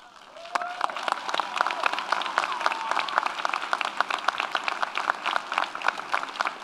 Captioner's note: audience cheers; audience applauds